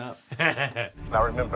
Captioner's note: chuckling